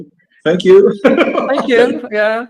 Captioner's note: laughs